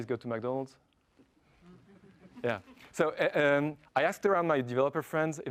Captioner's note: laugh